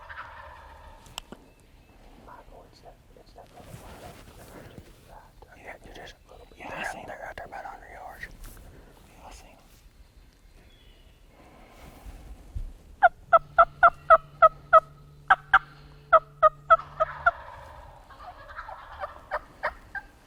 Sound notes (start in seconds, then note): 0.0 turkeys gobbling; 15.2 turkey call; 17.2 turkeys gobbling